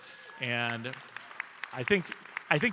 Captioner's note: audience cheering and applauding